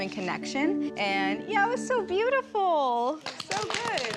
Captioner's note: applause